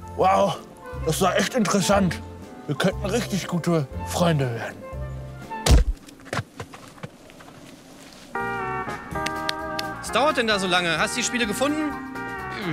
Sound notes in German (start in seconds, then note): 5.6 Krachen; 7.6 Idyllische Musik